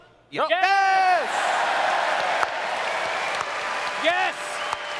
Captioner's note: audience cheers